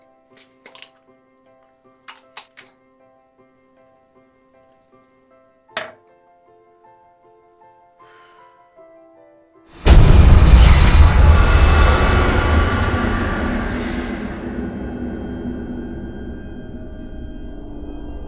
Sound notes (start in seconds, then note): 7.6 sighing; 9.8 dramatic music